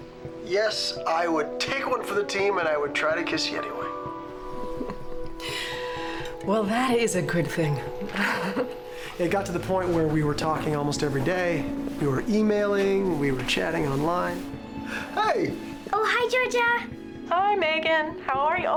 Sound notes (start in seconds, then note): 4.2 chuckles